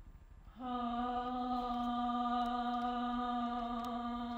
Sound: soft humming

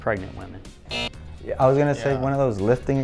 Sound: buzzer

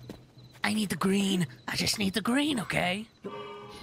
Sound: gravelly Voice

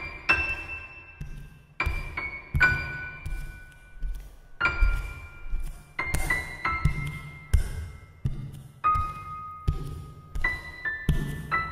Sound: footsteps

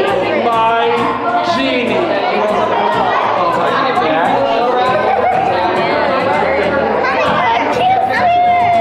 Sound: excited chatter

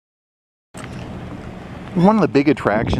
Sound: water lapping

